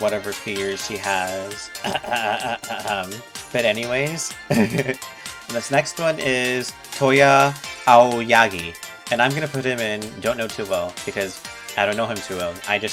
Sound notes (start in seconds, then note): 1.7 clears throat agressively; 4.4 laughs nerdily